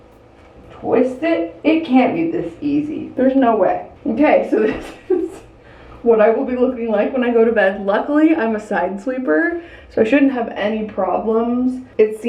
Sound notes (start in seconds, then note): 4.6 laughing